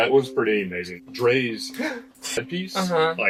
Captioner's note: gay gasp